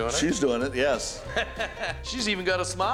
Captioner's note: laughter